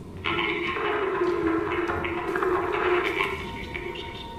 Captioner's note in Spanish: radio